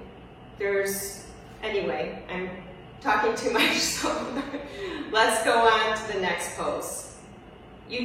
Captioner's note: laughs